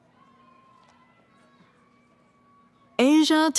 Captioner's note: cheering